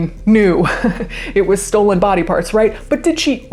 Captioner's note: laughs